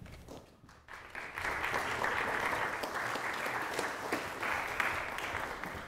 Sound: audience applauds

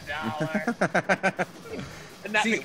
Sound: laugh

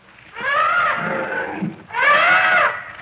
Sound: elephant continues to trumpet

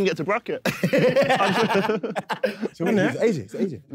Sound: laughing

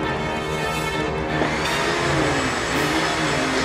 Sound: music intensifies; vacuuming

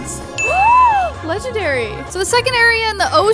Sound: gasping

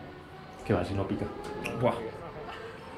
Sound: Spanish

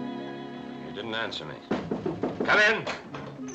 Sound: knock at door

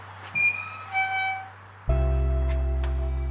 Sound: gate squeaks

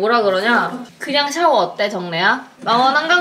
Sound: laughing

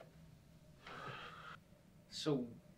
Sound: sigh

